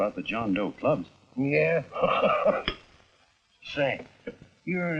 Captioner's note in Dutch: lachend